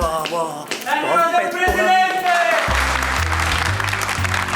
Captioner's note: applause